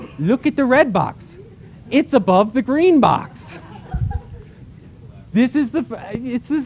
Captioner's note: laughter